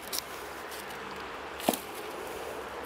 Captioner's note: impact